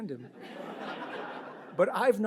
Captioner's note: audience laughs